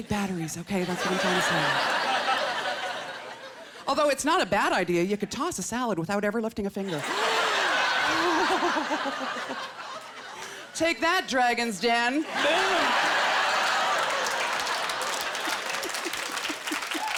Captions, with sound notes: doesn't take batteries, okay? That's what I'm trying to say. Although it's not a bad idea; you could toss a salad without ever lifting a finger. (Laughter) Take that, Dragons' Den. Boom. (Laughter) (Laughing)